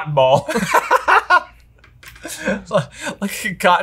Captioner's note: laughs